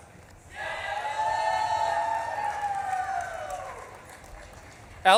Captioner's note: audience claps and cheers